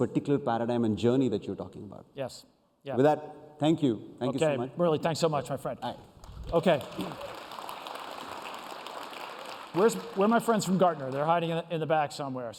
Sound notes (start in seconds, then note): 6.2 applause